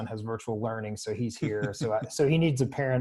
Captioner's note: laughs